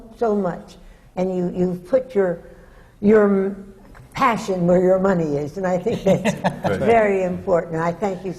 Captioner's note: laughs